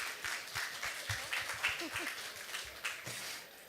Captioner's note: applause